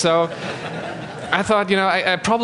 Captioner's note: laughter